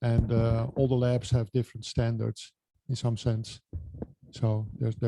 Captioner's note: microphone Interference